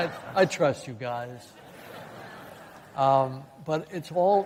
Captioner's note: laughter